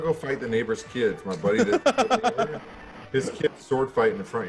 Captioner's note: laugh